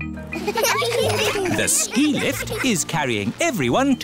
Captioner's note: laughter